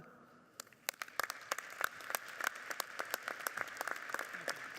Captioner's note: audience applauding